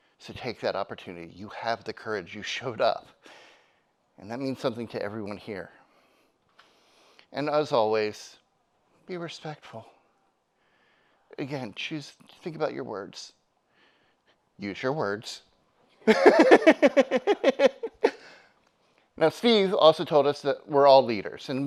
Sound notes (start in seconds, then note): 16.0 laughs; 16.1 audience laughs